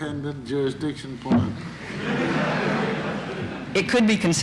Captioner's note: laughter in courtroom